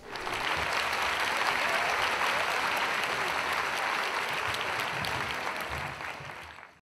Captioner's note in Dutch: applaus